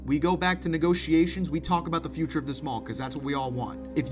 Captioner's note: none